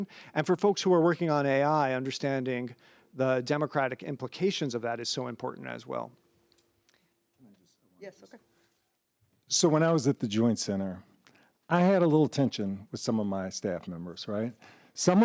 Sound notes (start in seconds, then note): 7.9 speaks faintly